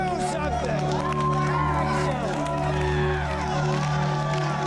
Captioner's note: audience cheering loudly